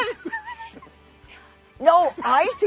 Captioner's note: laughs